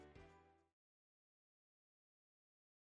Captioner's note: silence